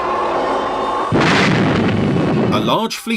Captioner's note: explosion booms